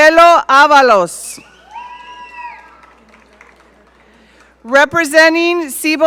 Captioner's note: audience cheering